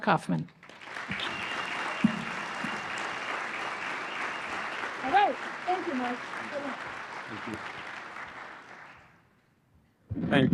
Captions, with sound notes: tell his story, Mark Kaufman. [APPLAUSE] Thank you, Mark.